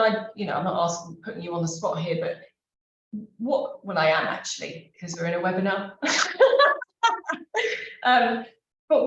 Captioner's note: laughs